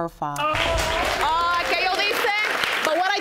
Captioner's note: speaking spanish